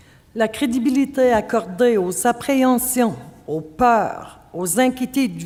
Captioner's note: speaking French